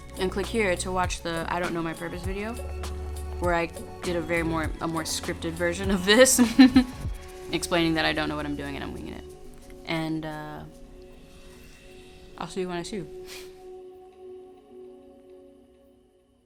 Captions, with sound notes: and click here to watch the I don't know my purpose video, where I did a more scripted version of this (laughs) explaining that I don't know what I'm doing and I'm winging it. And I'll see you when I see you. (sniffs) (gentle music)